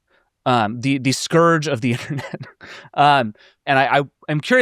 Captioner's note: chuckles